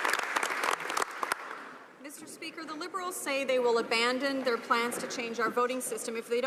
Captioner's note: some Applause